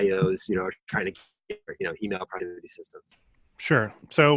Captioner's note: murmurs